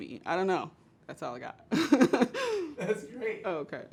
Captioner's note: laughs